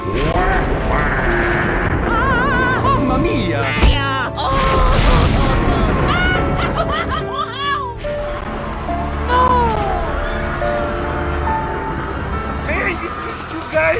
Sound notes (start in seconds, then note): 0.4 evil laughter; 2.0 screaming; 4.5 explosion; 6.3 wailing like a baby